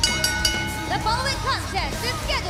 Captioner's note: bell ringing